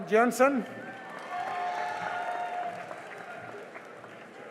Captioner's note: cheering and applause